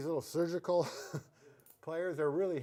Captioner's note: chuckles